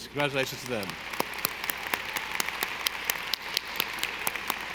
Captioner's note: audience applauding